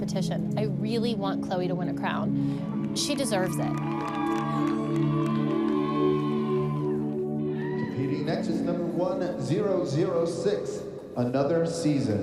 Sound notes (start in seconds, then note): 3.1 cheering